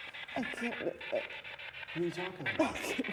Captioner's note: Isabel sobbing